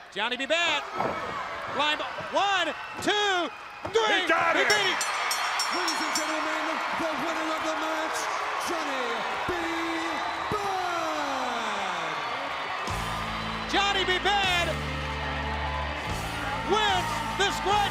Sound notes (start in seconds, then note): 4.6 bell ringing; 12.4 crowd cheering